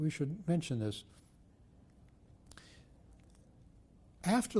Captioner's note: pauses for 3 seconds